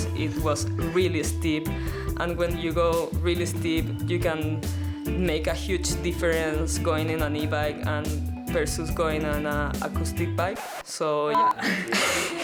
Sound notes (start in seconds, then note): 10.4 record scratches; 11.3 beep